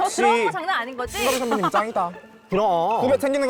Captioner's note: sound effect of attitude shift